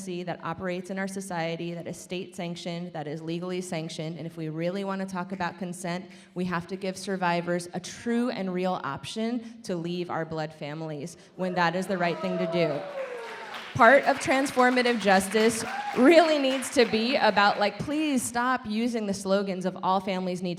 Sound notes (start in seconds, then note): 11.6 audience applaud